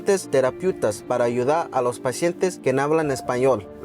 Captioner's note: speaking Spanish